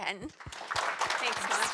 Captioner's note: audience applauding